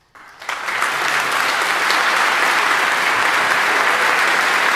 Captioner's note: audience applauding